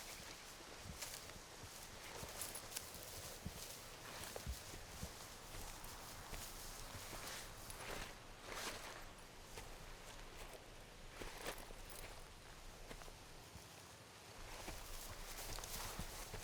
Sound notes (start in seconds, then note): none